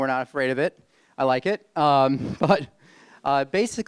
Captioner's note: chuckles